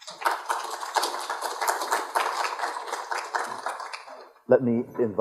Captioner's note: applause